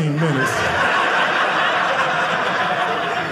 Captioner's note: audience laughing